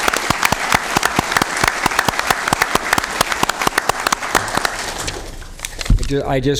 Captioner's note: applause